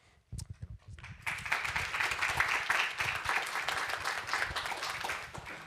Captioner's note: applause